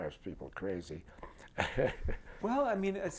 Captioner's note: laughter